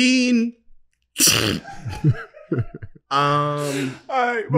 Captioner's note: crew member laughing